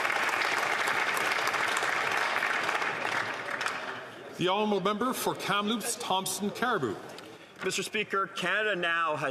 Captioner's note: applause